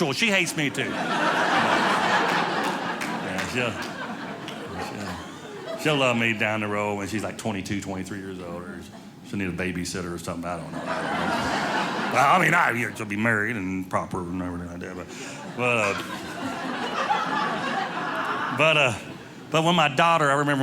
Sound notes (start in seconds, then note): 0.0 audience laughing